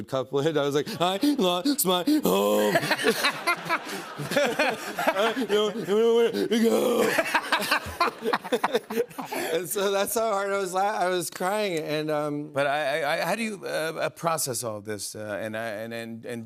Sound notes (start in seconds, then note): 2.6 laughter; 6.3 groaning